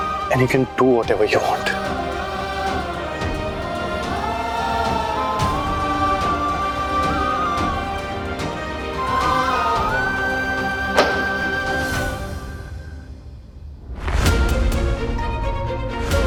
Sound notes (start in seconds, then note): 3.7 vocalising; 10.8 doors rattling; 13.8 dramatic music playing